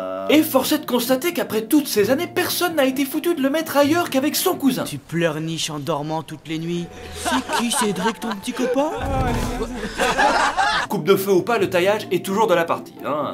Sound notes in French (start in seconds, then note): 6.9 rires; 9.4 rires de moqueries